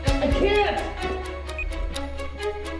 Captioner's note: beeps